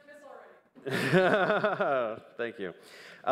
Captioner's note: laughs